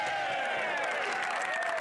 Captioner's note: speaking French